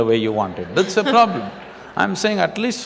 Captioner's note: laughter